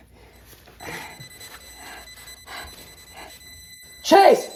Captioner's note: device beeps rapidly